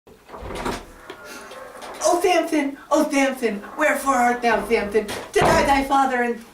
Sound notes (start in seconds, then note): 0.1 door loudly opens